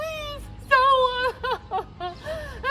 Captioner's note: sobs